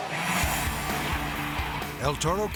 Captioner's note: jet whooshing; upbeat rock music